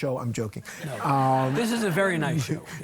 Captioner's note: audience laughing